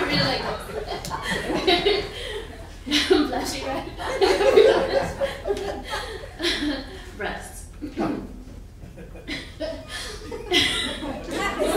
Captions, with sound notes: I'm blushing right. (laughing) Rest. (clears her throat) (laughing)